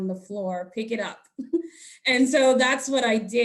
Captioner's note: chuckling